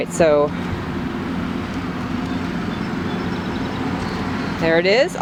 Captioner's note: lawn mower engine roars